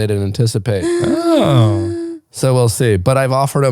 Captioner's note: gasps